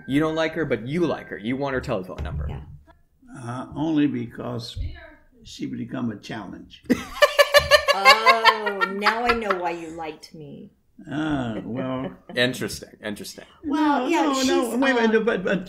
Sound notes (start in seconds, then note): 6.9 silly laughter